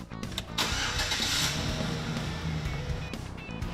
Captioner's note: car starting